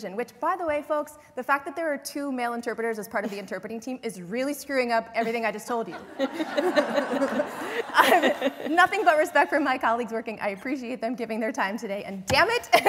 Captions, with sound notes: which by the way folks, the fact that there are two male interpreters as part of the interpreting team is really screwing up everything I just told you. [LAUGHTER] I have nothing but respect for my colleagues working. I appreciate them giving their time today and, dammit--